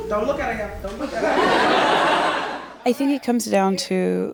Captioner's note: audience laughs